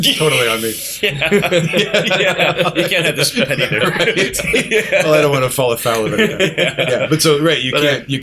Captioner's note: laughter